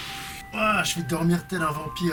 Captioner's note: exclamation